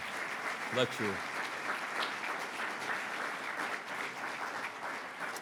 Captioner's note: audience applauds